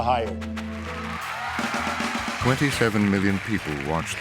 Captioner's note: cheering and applause